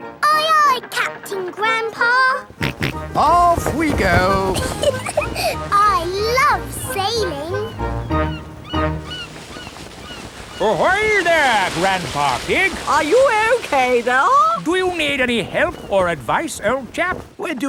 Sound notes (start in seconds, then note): 2.6 snorts; 3.9 giggles